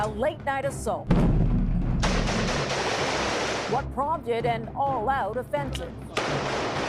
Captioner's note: explosion; explosion